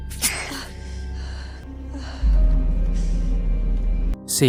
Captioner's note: sigh